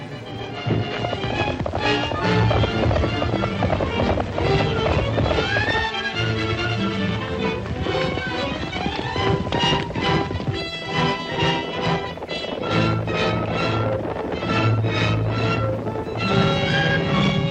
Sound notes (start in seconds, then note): 0.6 dramatic music continues; 0.6 hooves clomping